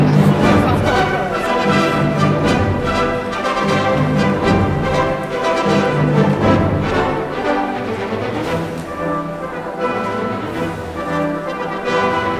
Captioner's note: applause